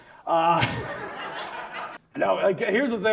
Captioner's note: audience laughs